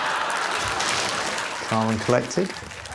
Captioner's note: laughter